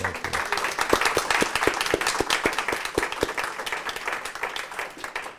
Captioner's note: audience applauding